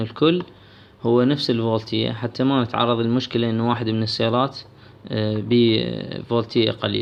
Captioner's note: low voltage